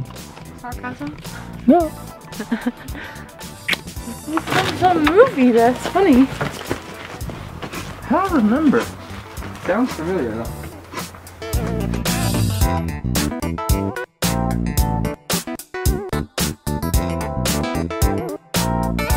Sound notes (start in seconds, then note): 2.3 laughter; 3.6 kiss noise